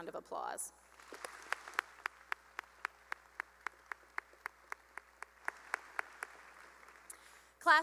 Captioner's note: applause